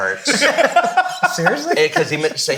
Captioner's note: all laughing